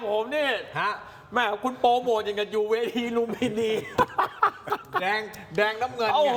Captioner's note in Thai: เสียงหัวเราะ